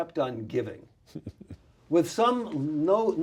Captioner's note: laughs